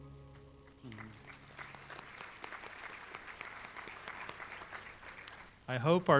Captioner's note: applause